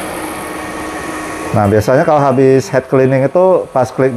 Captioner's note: printer machine noise